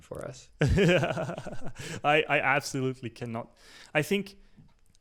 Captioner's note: laughs